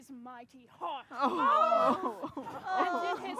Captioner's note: sobbing